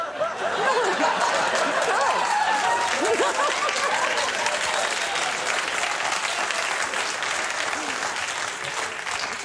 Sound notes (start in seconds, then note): 0.0 audience laughs; 2.3 audience claps